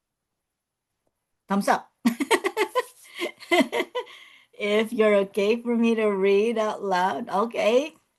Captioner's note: laughs